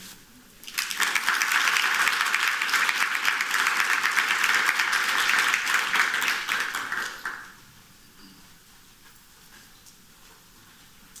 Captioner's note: applause